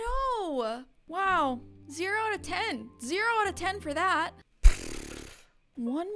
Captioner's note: spits